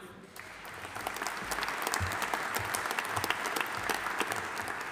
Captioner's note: audience applauding